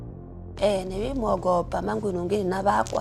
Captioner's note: speaks in foreign language